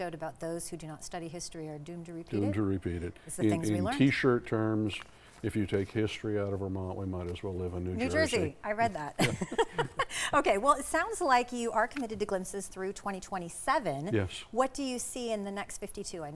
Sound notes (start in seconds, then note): 9.2 laughs